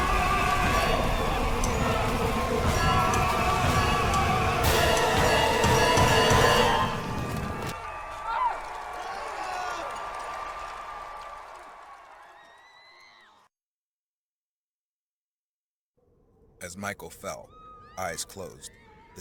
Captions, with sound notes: [People screaming] As Michael fell, eyes closed